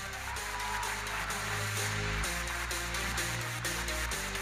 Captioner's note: audience applauding; electronic dance music